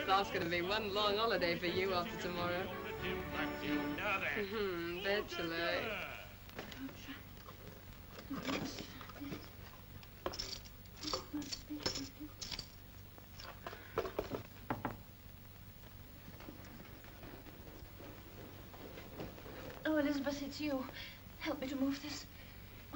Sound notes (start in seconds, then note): 3.8 performer sings; 6.6 mumbles; 10.1 sounds of rummaging; 14.5 light knock on door